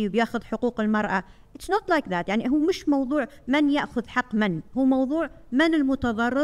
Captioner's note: speaking foreign language